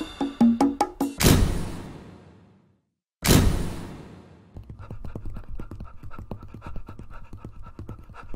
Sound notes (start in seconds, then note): 4.6 dog pants loudly